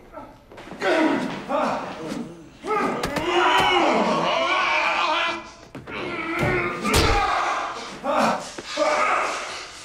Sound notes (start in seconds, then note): 3.2 groaning loudly